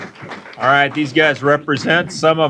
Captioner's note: applause